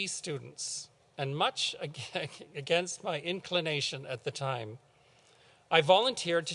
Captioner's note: chuckles